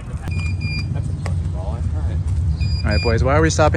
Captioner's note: beeping